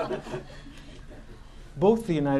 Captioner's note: laughter